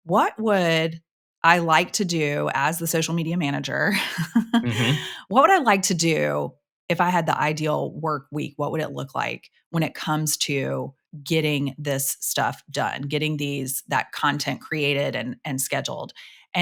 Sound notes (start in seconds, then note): 4.5 chuckles